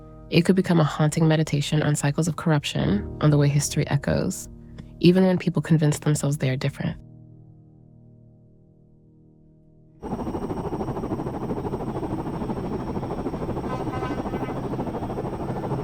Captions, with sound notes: it could become a haunting meditation on cycles of corruption, on the way history echoes. Even when people convince themselves they are different. [rotor blades whirring] [riot sounds in background]